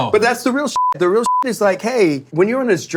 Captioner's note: beeping